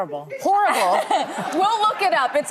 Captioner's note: audience laughing